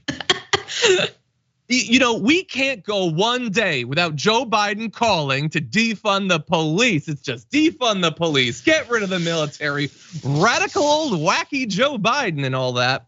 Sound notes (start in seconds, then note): 0.0 laugh